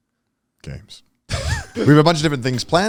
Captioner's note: chuckling